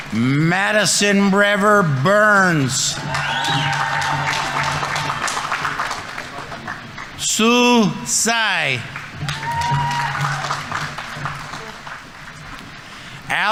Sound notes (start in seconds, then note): 2.9 audience applauding; 2.9 audience members cheering; 9.1 audience applauding; 9.1 audience members cheering